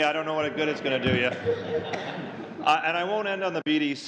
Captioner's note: laughter